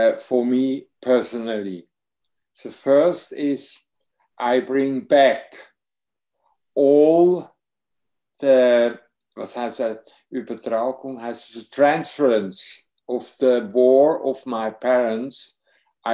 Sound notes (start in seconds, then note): 7.9 speaks foreign language